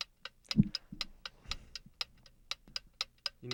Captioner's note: clock ticking